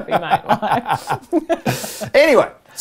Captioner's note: laughing